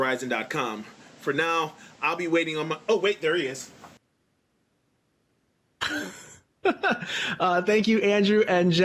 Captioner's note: chuckles